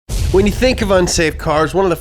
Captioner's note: explosion sounds